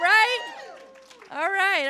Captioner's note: cheering